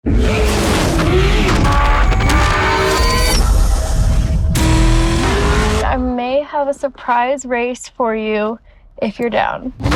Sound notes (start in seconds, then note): 0.1 engine roaring; 2.0 blades whirring; 3.0 digital chirping